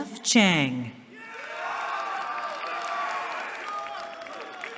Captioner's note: cheering